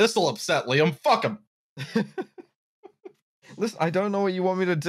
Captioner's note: chuckles; laughs lightly